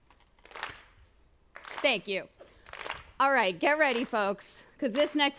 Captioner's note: clapping